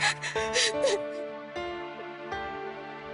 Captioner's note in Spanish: Sollozos